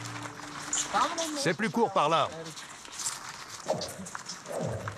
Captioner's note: foreign spoken audio